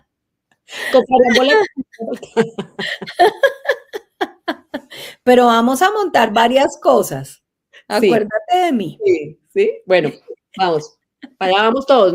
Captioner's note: laughs